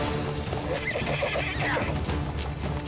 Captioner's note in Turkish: At kişneme sesi